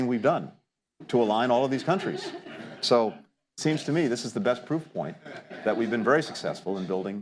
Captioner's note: laughter